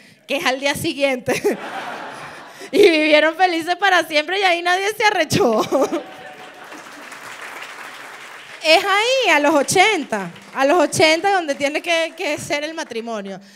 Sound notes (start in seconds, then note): 7.1 applause